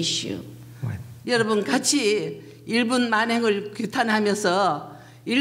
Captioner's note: speaking foreign language